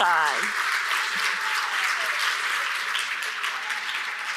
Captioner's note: audience cheers